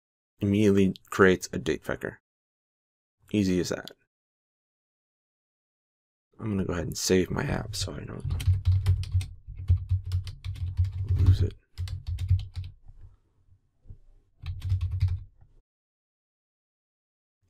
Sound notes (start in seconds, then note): 14.6 typing